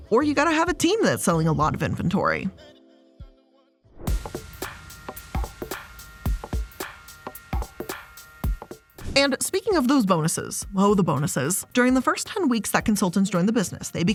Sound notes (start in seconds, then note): 4.3 upbeat music; 8.8 air whooshing